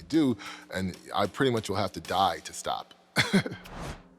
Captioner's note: laughs